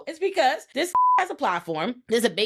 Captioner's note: beep